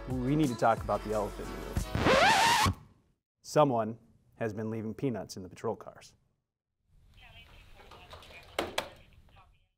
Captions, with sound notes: We need to talk about the elephant in the room. [Record Scratch] Someone has been leaving peanuts in the patrol cars.